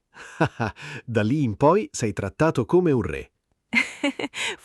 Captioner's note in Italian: Haha; Haha